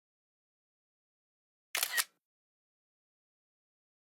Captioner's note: camera Click